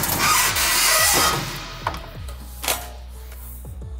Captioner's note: handle squeaking